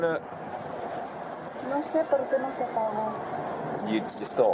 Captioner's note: speak in Foreign language